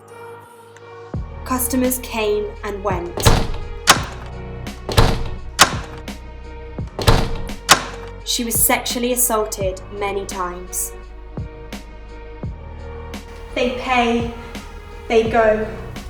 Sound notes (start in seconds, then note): 3.9 doors opening and slamming